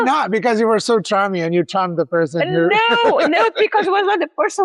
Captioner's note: laughs